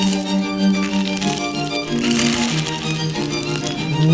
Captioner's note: fish crunching